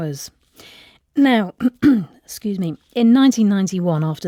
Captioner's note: clears throat